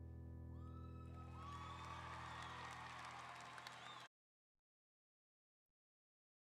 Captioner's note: audience applauding and cheering